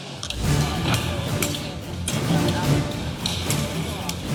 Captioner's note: indistinct chattering